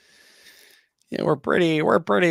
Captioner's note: silly voice